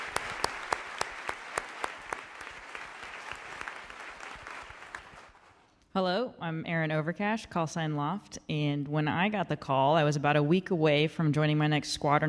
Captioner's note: applause